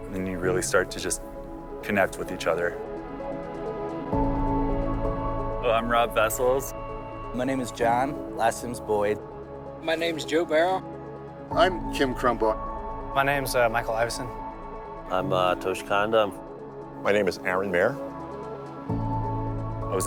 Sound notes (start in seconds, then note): 5.7 voiceover